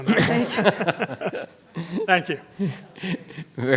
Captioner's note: group laughs